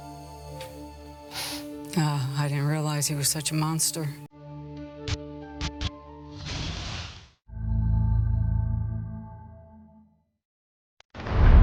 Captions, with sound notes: [sniffs] I didn't realize he was such a monster. [static hissing] [glowing music]